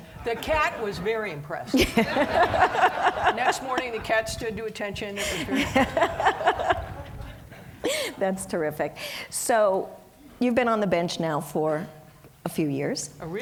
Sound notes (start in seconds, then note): 1.7 audience laughing; 5.1 laughing